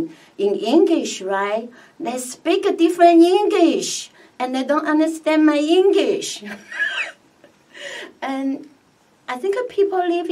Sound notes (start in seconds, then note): 6.6 laughs